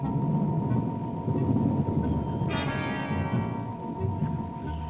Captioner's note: thunder rumbling